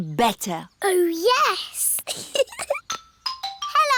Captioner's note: giggles